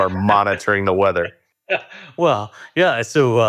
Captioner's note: laughs